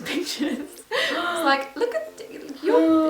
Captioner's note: laughs; gasps